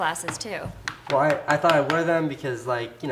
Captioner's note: note cards tapping